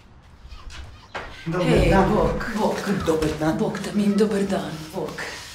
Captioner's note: In Arabic; In Croatian